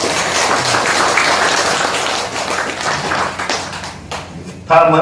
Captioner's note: claps